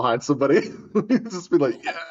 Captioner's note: laugh